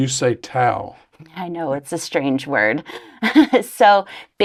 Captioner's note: chuckles